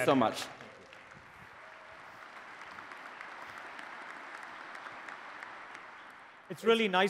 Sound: applause

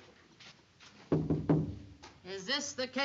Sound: knocking

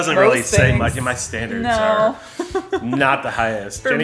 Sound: laughs

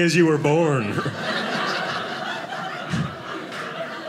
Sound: audience laughing

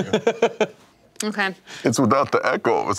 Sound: laughing

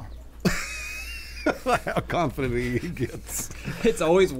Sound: laughing

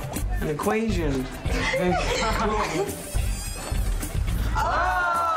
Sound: girls giggle

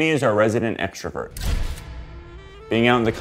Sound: camera shutters click

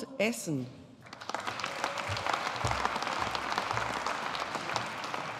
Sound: audience applauding

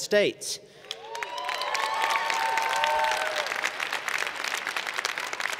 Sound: cheers and Applause

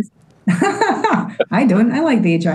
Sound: laughs

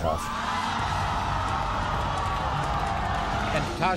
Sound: audience gasps

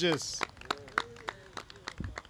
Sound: applause

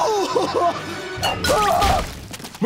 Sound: shrieking; groaning

